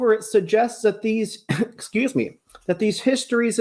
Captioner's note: coughs